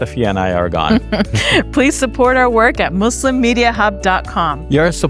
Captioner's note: chuckles